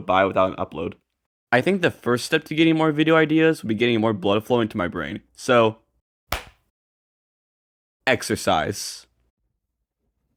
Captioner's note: clap